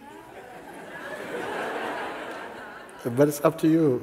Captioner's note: laughter